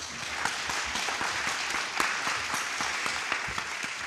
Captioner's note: audience applauding